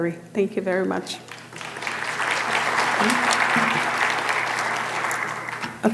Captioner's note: audience applauding